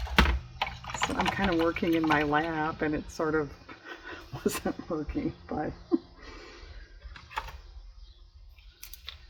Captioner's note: laughs